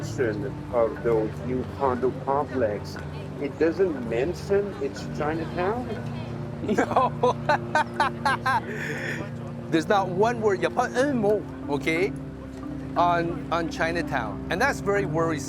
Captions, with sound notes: No. (Laughing) There's not one word you'll find anymore, okay, on Chinatown. And that's very worrisome.